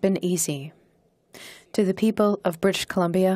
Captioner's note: speaking in French